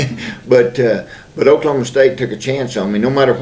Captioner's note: laughs